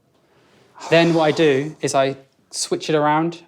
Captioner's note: sighs